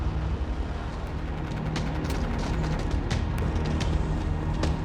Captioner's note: machine gunfire